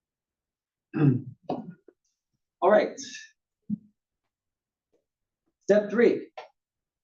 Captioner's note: cough